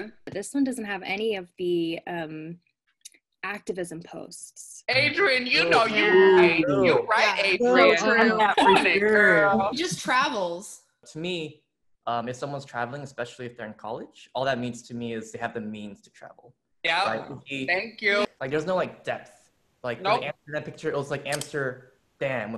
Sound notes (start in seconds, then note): 5.5 group groaning